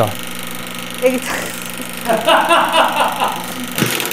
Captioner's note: laughs; background laughter